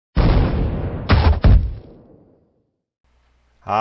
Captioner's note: explosion